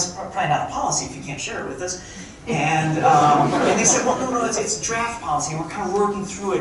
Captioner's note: crowd chuckling